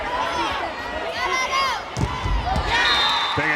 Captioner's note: whistle blows